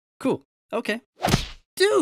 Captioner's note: smack